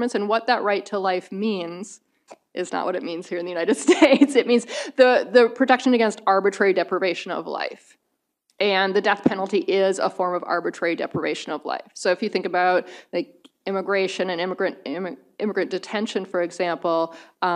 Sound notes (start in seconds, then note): 3.8 chuckles